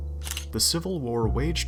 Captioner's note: camera shutter